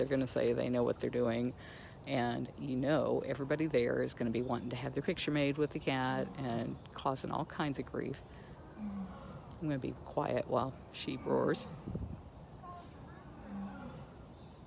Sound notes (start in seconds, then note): 12.5 roaring